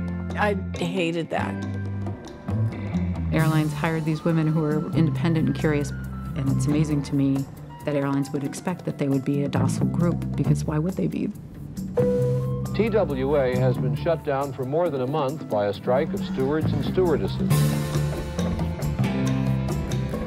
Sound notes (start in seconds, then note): 12.0 sign chimes